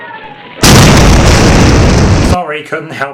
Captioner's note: loud explosion